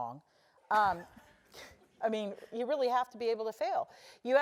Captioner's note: laugh